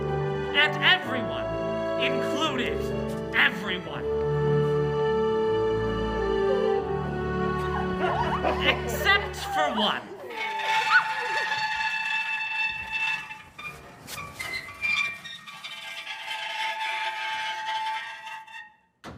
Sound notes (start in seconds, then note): 11.9 door squeak